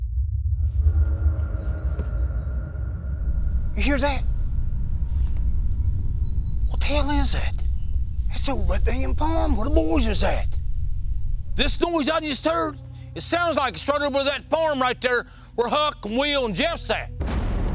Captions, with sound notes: [DISTANT RUMBLING] (WHISPERING) You hear that? What the hell is that? It's over by that damn farm where the boys was at. This noise I just heard-- it sounds like it started over by that farm right there where Huck and Will and Jeff's at.